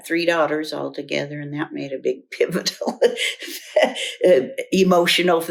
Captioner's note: laughs